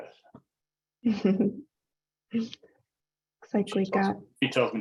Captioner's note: laughs